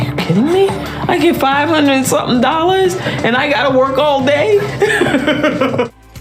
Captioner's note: laughs